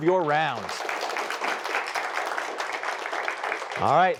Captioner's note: applause